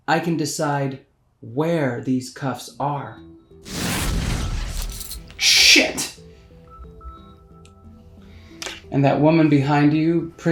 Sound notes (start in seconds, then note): 3.7 air whooshing; 5.0 cuffs clinking; 6.2 gentle suspenseful music